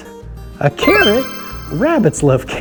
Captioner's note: chimes ringing